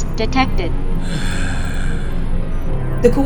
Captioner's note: Lumbar sighs